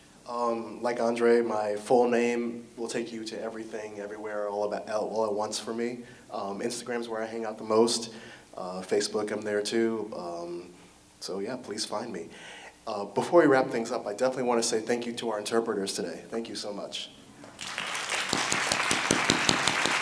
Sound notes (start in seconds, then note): 17.4 audience applause